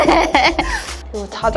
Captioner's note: laughter